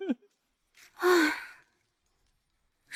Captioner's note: sigh